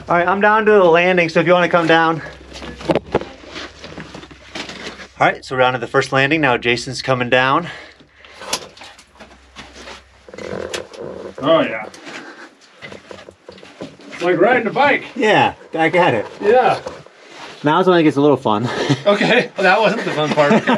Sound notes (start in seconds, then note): 2.8 debris rustling; 10.1 ladder squeaking; 12.9 footsteps tapping